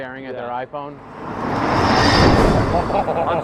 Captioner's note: sound of car passing too closely